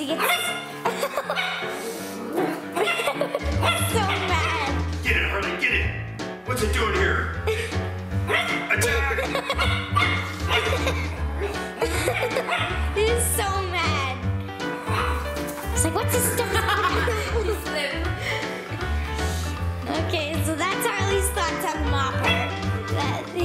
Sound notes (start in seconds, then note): 0.1 barking; 0.8 laughter; 8.8 laughter; 9.4 barking; 16.2 laughter